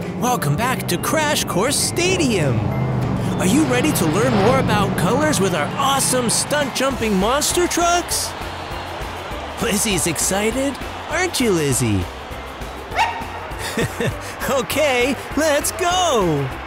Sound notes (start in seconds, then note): 12.9 Lizzy barks